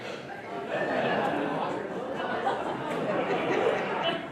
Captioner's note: audience laughs